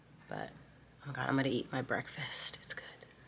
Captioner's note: none